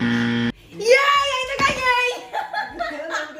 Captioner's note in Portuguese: Grito